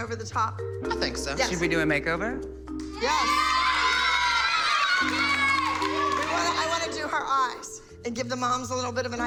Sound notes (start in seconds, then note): 2.8 girls cheer